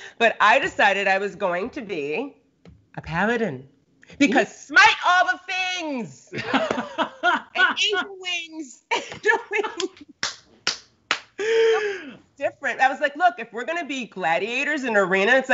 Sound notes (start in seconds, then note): 6.4 Brennan laughs